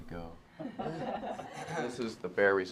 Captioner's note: chuckling